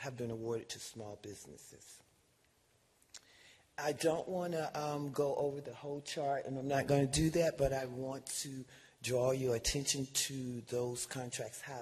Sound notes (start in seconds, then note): none